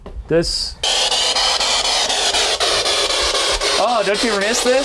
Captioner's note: static buzzing